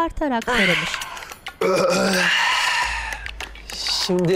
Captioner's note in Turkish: Öksürük sesi